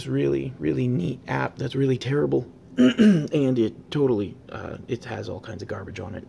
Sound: throat clearing intensifies

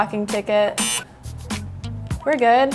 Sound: beep

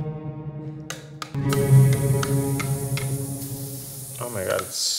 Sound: sizzling

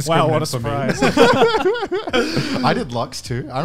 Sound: laughing

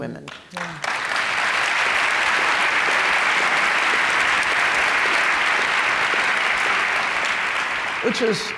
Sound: applause

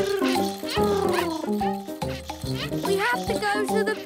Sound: purring

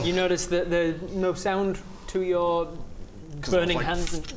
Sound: none

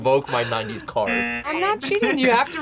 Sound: buzzer rings

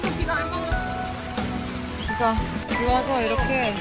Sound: drip

